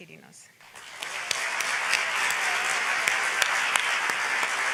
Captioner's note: audience applauds